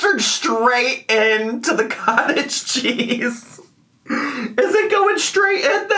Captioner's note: laughs